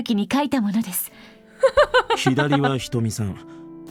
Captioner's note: chuckles